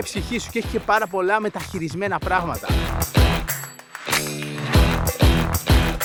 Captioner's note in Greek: χειροκρότημα